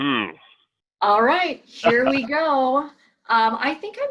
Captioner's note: laughs